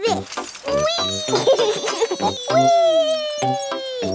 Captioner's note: laughs